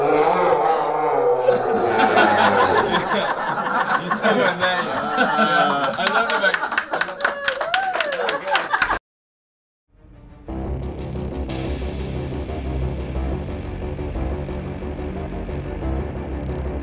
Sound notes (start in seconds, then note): 0.0 slo-mo screaming; 1.4 laughter; 4.9 groans; 5.3 applause